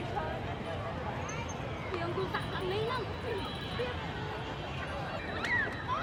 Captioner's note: street noise